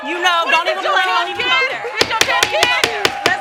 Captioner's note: crowd oohing; all yelling; bangs gavel